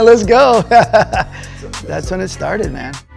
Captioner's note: laughs